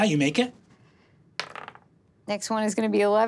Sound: dice clatters

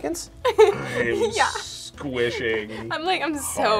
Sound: laughs

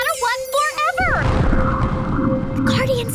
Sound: building rumbling

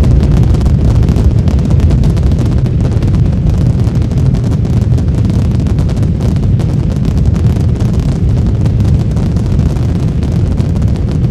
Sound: rocket Jets Rumbling

